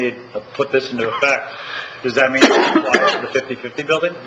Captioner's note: man coughing